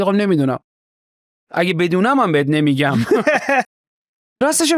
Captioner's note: laughs